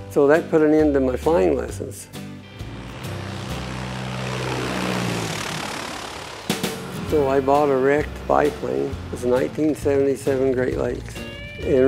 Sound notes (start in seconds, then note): 4.4 airplane engine sound